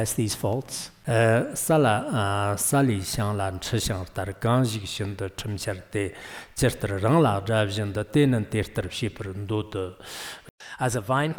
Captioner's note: giving oral transmission in Tibetan